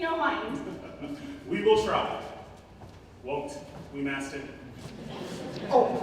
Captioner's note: chuckles